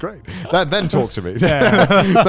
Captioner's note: laughs